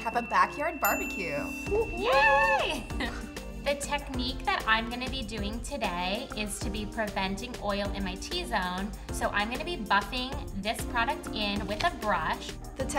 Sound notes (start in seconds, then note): 0.0 bell rings; 2.0 cheering